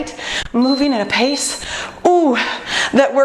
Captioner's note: beeping